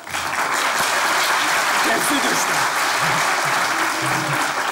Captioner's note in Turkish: Alkış sesleri